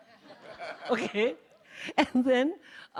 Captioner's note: laughs